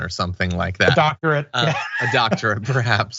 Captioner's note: laugh